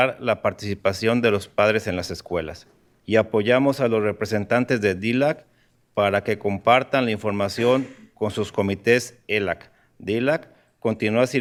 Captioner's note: speaking in spanish